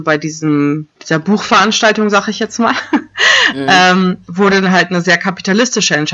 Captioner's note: laughs